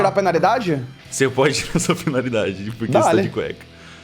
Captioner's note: chuckles